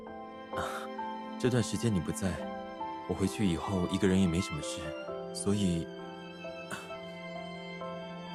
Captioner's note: cough